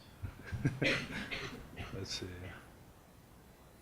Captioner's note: laughs